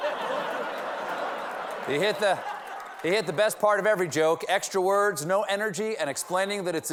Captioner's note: laughter